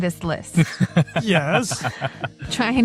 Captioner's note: laughs